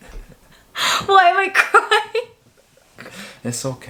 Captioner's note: laughs